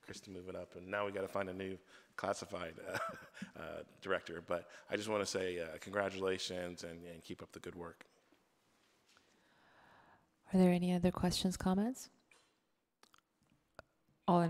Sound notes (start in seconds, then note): 2.8 chuckles